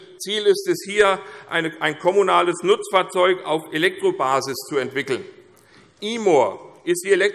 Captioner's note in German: none